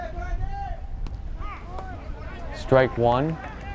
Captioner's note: fans yelling